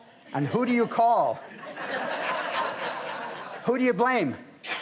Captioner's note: audience laughs